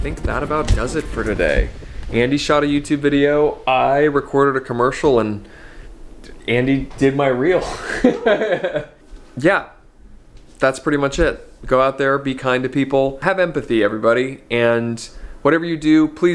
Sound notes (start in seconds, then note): 7.6 laughs